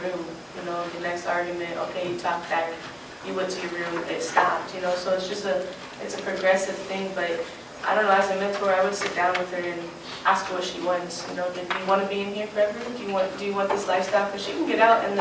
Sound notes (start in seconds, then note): none